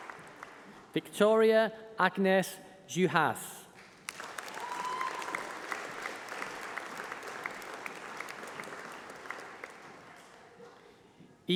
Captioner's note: applause